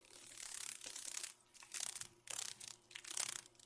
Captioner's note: sound of a dragon fly